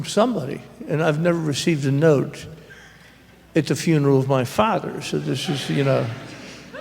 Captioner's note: laughter